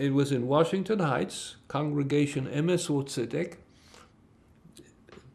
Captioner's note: hebrew